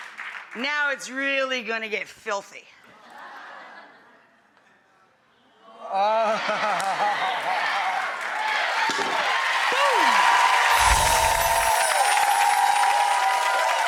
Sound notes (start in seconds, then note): 10.6 applause